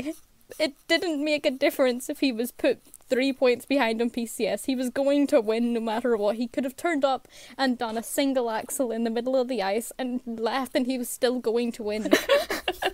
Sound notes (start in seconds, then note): 6.3 sarcastically; 12.0 hosts laugh